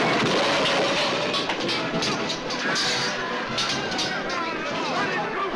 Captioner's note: men Chattering, Cheering